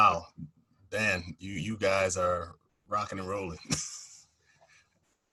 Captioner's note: laughs